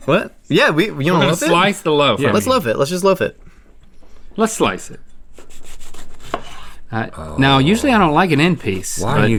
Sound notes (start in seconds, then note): 5.4 slicing noise